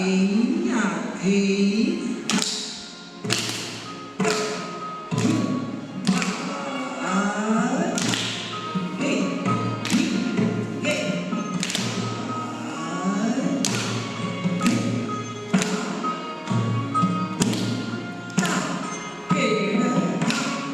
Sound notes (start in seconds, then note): 0.1 traditional singing music; 3.3 tapping feet sound